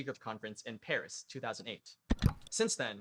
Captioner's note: click